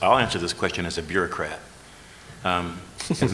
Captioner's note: laughter